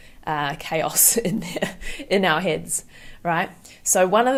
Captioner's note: chuckles